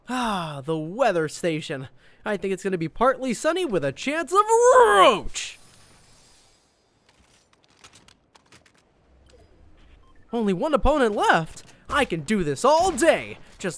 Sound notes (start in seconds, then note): 7.1 weapon changing clangs